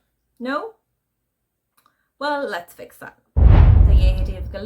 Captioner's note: woosh sound